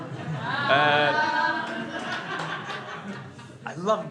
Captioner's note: crowd laughs